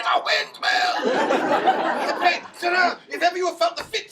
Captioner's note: audience laughing